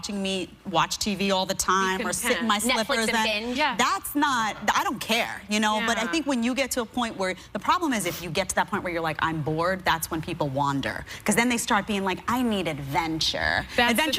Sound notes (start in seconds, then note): none